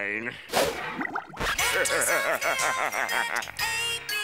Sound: laughing

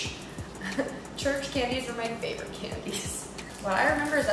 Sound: chuckles

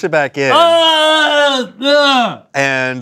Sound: groaning

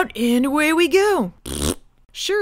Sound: farts

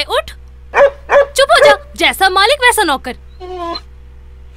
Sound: dog barks

